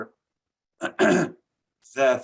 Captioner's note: throat clearing